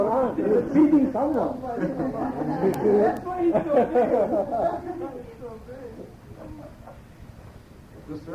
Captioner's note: laughter